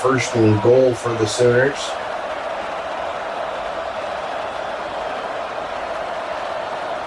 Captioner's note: crowd Noises